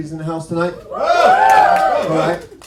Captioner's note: whooping